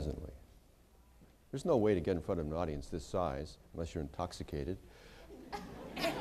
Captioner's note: laughter